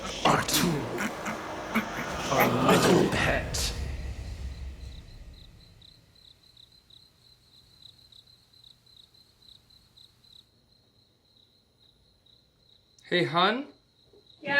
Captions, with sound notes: Our tool Our little pet [crickets] Hey hun?